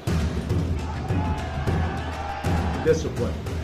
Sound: crowd cheering

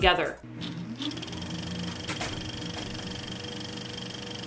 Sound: sound of film reel

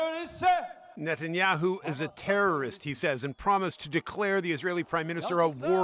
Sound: speaking alternate language

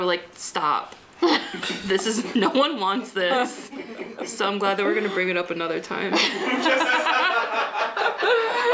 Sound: laughter

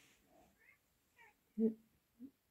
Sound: meowing in background

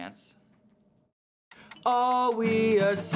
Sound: timer ticking

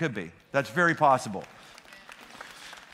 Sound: applause

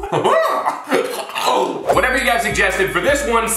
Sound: laughing; choking; bell dings

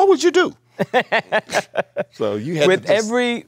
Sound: Viola laughs

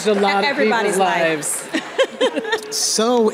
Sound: audience laughing

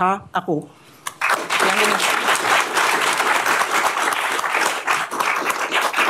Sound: applause

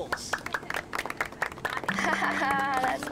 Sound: applause

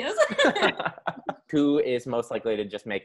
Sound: laughing

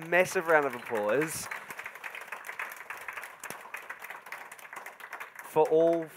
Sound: audience applauding enthusiastically

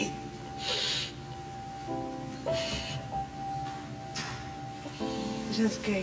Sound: sniffling

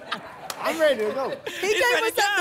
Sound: laughter

